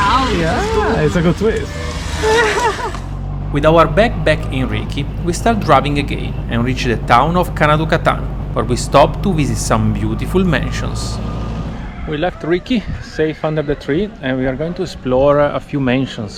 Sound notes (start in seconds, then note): 2.3 laughs